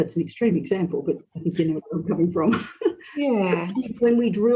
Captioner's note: laughs